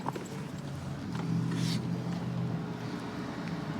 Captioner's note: distant traffic hum